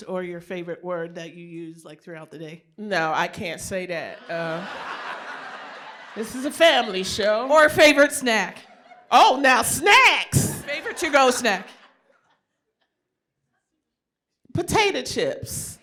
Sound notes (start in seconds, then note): 4.1 laughter